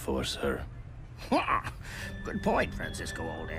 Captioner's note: chuckles